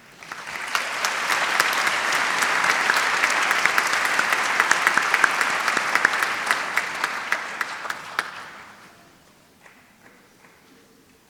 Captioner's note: applause